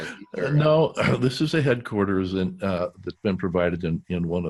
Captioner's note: laughs